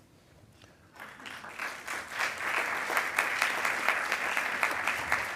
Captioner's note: attendees applauding